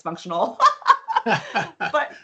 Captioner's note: laughing